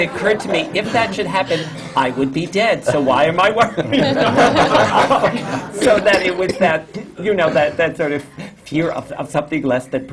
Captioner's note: laughter, especially from the panel; laughter